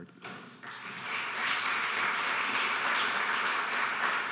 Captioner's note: applauding